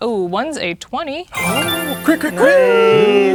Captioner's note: triumphant sound effect plays; players celebrating; imitating alarm sounds